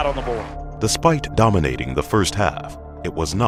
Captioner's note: voiceover